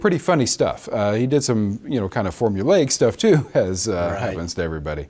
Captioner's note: laughs